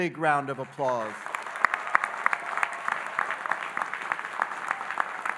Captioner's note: audience applauding